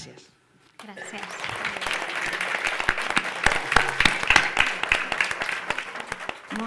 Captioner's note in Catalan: aplaudiments